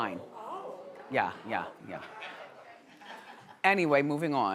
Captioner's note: audience gasping